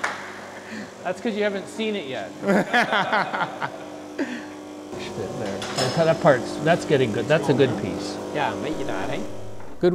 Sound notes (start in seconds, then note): 2.4 laughter